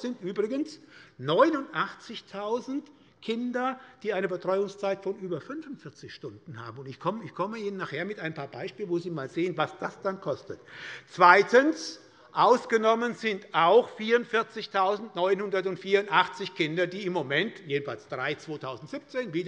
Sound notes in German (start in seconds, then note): none